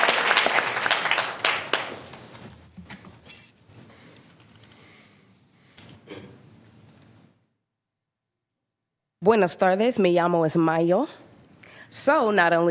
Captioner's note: applause